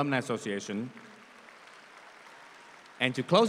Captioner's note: audience applauds